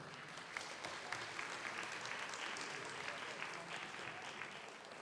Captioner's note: audience applauds